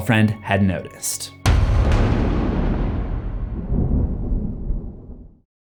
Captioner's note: impact